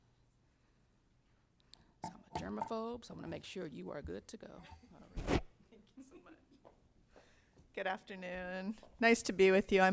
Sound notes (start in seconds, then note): 5.7 chuckles